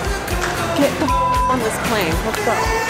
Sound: beep

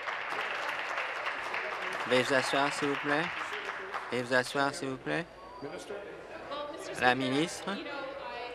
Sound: applause

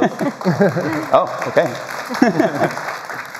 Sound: applause

